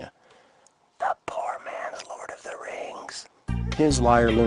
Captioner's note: whisper